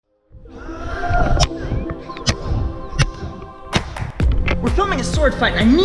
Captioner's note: ethereal music; shouting